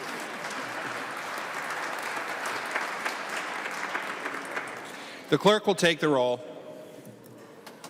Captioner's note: applause